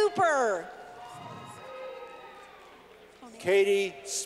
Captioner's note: clapping